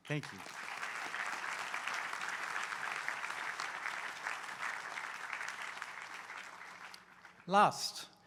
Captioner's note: applause